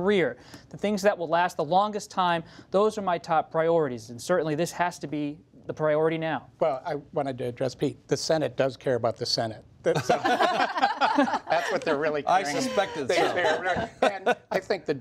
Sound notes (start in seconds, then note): 9.9 laughter